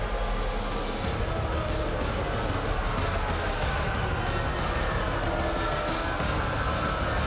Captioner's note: crowd boos; upbeat music